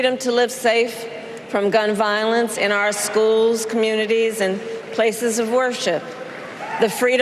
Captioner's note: applause